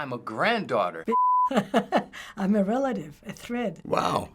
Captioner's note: laughs